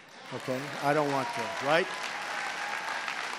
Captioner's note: applause